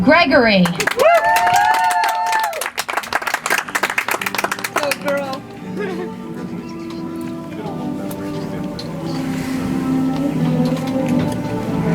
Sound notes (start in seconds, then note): 0.6 audience applauds; 5.5 soft music